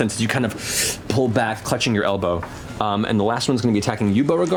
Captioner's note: inhales